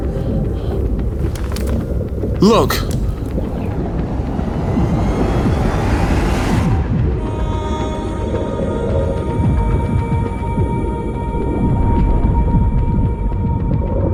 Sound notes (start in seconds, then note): 5.3 sub whirring; 7.8 mystical music